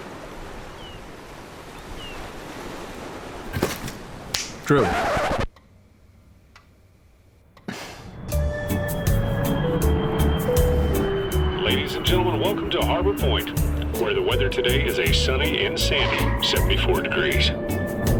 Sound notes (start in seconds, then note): 0.0 seagulls and ocean waves rolling in; 4.0 snaps fingers; 4.7 record scratching sound